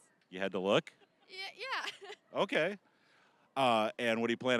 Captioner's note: laughing